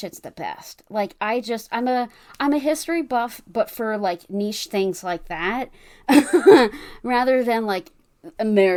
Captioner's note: laughs